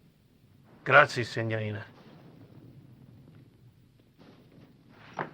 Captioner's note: speaking foreign language